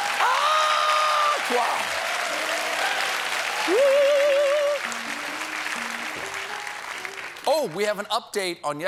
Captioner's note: applause; piano riff